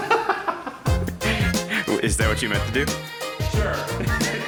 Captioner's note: laughs